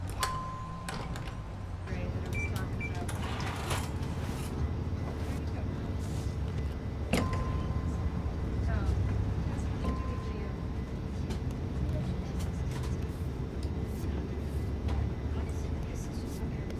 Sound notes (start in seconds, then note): 0.0 door dinging; 2.2 register beeping